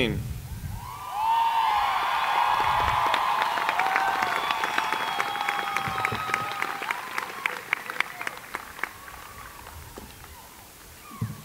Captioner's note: cheering and Applause